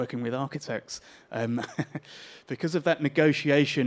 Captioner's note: chuckles